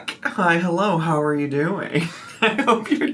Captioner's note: laughs